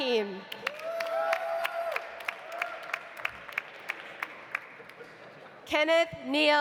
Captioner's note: audience applauding; audience cheering